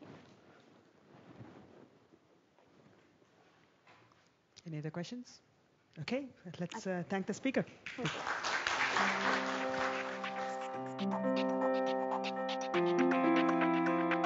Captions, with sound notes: Yeah. - Any other question? Okay. Let's thank the speaker. (public applauding) (upbeat music)